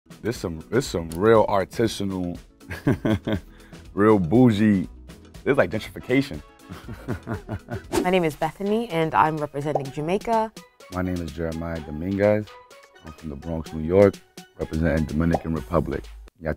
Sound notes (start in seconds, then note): 2.4 speaker laughs; 6.7 speaker laughs; 16.3 speaking Spanish